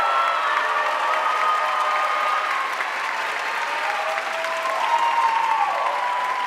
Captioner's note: audience cheering and applauding